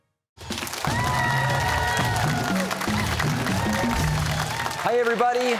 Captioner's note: cheers and applause